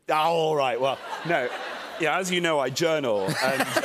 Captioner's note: laughter